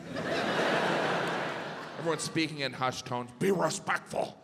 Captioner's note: audience laughs